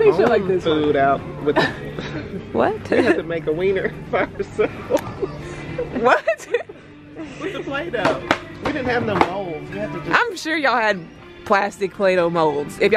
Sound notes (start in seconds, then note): 2.8 they laugh; 7.3 laughing